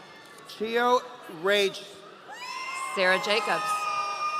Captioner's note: audience cheering